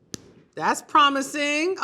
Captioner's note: chocolate snaps